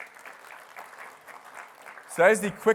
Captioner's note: applause